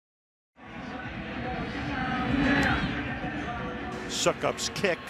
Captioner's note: pa announcement